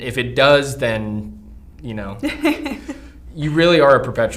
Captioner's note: laughs